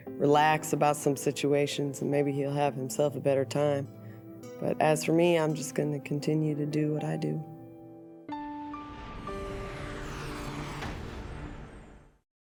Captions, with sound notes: Relax about some situations, and maybe he'll have himself a better time. But as for me, I'm just going to continue to do what I do. [SHIMMER]